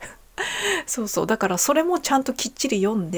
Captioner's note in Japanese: 笑い; 息をのむ音